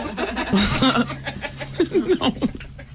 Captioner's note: laughter